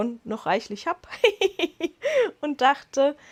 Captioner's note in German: Lachen